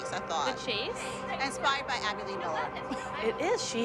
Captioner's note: laughs